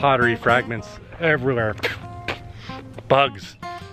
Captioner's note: spitting